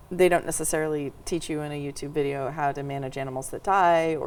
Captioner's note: none